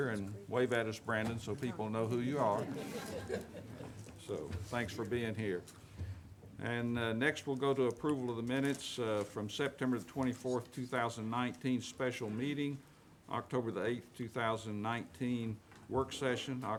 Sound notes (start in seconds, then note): 2.5 audience laughing